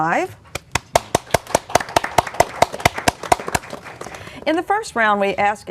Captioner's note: applause